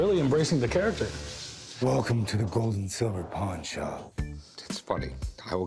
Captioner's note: batman voice